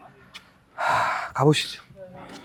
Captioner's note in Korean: 숨참ㅋㅋ